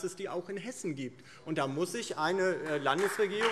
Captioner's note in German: Beifall DIE LINKE und SPD